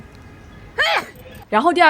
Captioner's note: sneeze